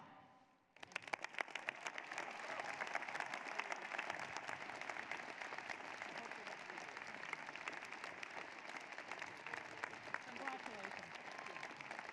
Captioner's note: applause